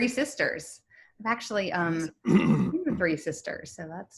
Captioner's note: clears throat